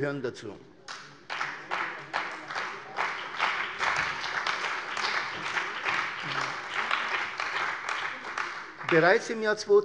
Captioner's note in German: Beifall bei der CDU und dem BÜNDNIS 90/DIE GRÜNEN